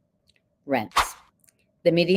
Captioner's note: text whooshing